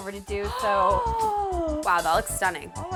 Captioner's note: gasps